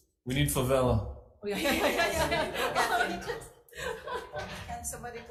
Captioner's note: all laughing